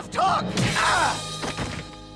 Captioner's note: screaming